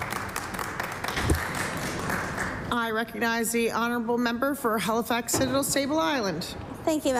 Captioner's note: applause